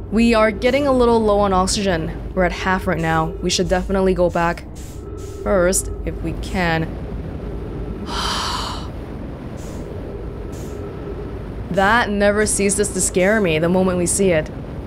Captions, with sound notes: We are getting a little low on oxygen. We're at half right now. We should definitely go back. First, if we can. *sigh* That never ceases to scare me the moment we see it.